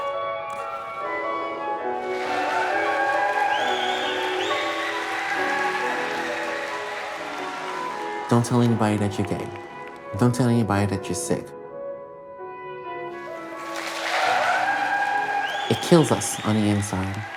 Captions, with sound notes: [audience cheering] [audience applauding] Don't tell anybody that you're gay. Don't tell anybody that you're sick. [audience cheering] [audience applauding] It kills us on the inside.